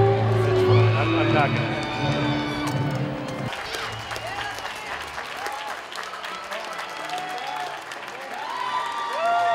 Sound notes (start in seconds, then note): 3.3 applause, cheering